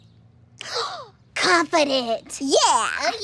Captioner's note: gasps